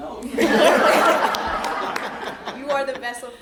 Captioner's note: all laughing